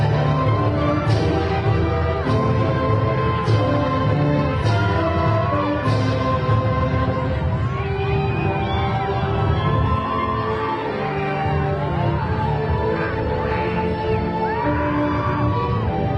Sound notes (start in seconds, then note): 4.1 graduation music continues; 9.5 crowd cheering